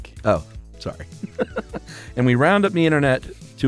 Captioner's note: laughs